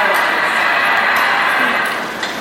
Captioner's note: cheering sound effect